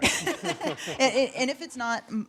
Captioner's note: audience laughing